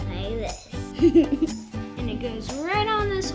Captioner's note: giggles